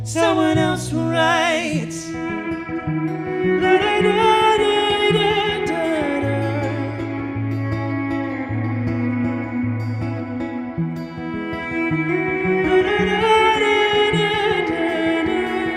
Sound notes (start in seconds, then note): 3.5 vocalizing; 7.3 emotional music; 12.8 vocalizing